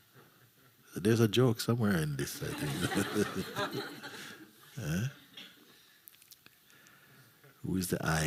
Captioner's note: laughter